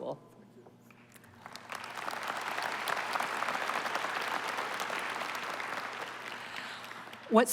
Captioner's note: applause